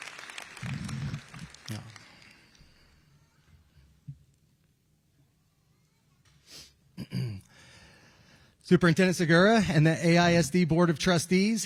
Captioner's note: applause